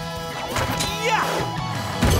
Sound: grunting

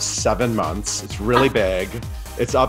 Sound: Sutton laughs

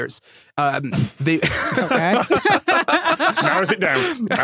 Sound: group laughing

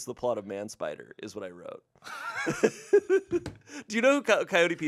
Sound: laughs

